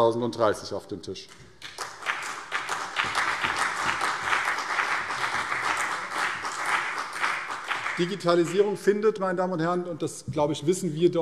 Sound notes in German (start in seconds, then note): 1.6 Beifall CDU und BÜNDNIS 90/DIE GRÜNEN